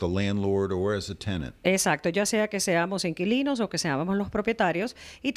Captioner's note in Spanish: Hablando ingl\s